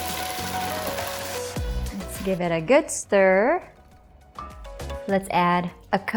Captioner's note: spatula thuds